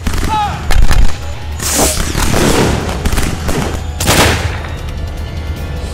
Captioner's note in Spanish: SOUND Pistolas